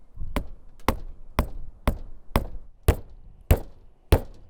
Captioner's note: hammer knocking